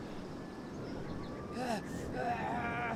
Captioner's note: Ash groans